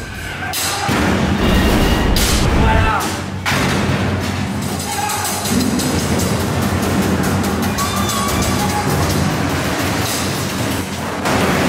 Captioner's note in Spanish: Sonidos metálicos